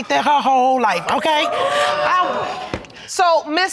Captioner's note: audience exclaiming